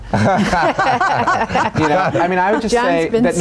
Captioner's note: all laughing